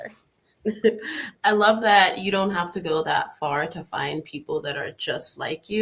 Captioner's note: laughs